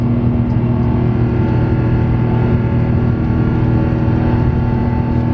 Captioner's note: cabin vibrating